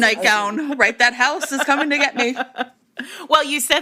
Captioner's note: laughter